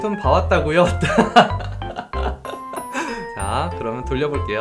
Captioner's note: laughs